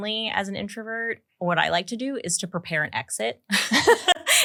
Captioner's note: laughs